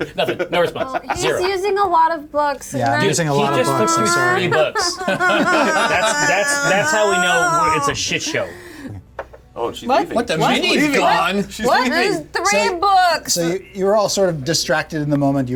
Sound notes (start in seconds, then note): 4.7 Jasmine fake crying